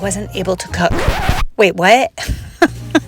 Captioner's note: record scratch sound; laughs